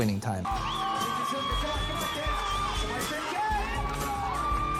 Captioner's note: people applauding